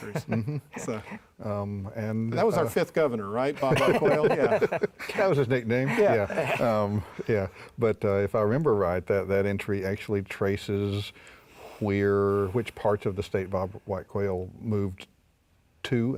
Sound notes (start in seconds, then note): 3.6 laughs